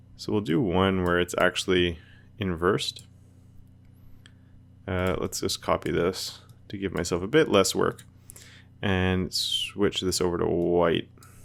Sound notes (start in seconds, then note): none